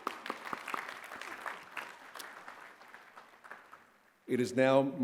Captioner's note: applause